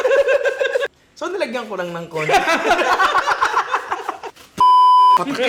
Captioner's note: laughs; laughs